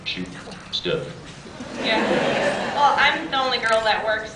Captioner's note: scattered laughs